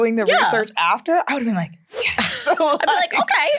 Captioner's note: laughs